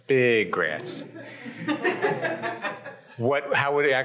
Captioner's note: audience chuckles and laughs